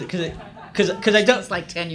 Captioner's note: audience laughs